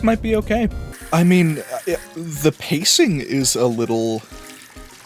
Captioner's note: pacing